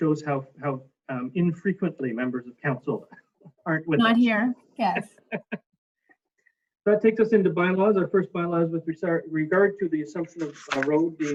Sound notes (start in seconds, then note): 5.2 laughs